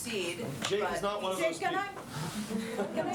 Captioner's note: laughter